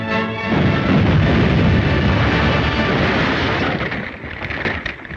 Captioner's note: explosion booming